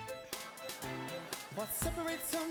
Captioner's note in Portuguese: audience laughing